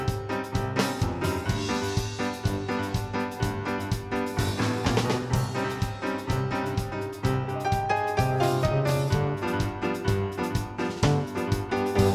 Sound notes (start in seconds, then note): none